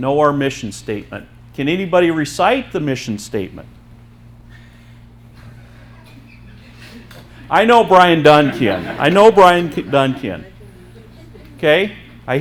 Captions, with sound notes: - Know our mission statement. Can anybody recite the mission statement? (audience members laughing) I know Brian Dunn can, I know Brian Dunn can. 'Kay.